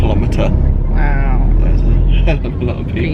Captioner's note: laughing